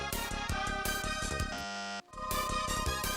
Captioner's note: bzzt